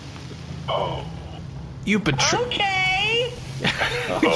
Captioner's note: over AJ’s comms